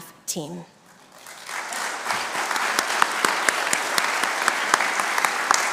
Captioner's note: congregation applauding